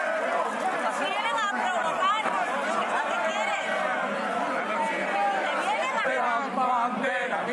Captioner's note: crowd noise